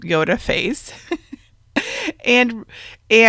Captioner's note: chuckles